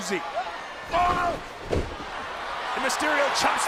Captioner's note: crowd cheering